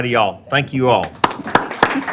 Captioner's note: applause